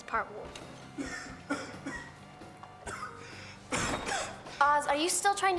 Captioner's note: Ozz coughing